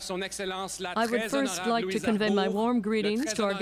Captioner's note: speaking French